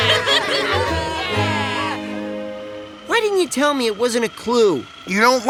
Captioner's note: laughing